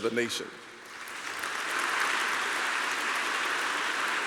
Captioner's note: applause